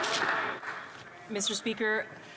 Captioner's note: applause